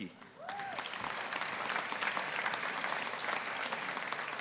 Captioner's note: audience applauding